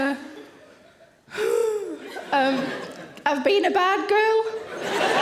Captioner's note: anxiously exhales; audience laughing